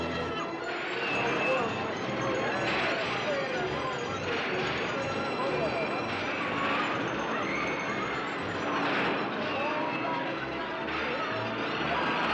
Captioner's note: crowd sounds; jaunty carnival music